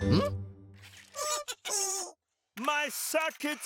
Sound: Bongolalas laughing sheepishly

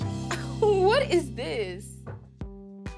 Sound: chuckles

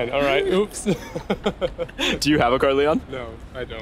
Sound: laughing

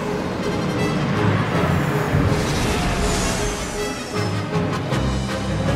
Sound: ship landing

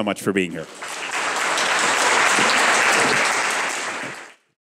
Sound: audience applause

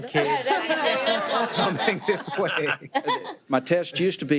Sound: people laughing

